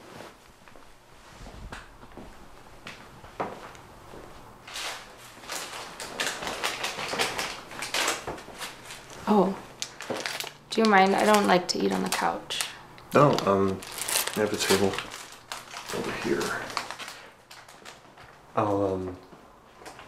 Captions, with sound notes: - Okay. (wrapper shuffles) - Oh, do you mind? I don't like to eat on the couch. - Oh, I have a table over here.